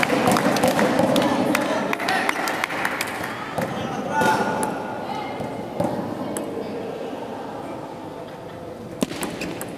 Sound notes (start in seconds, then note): 1.8 applause